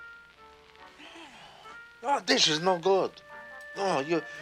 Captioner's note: sighs